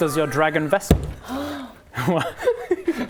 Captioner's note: gasp; childish giggles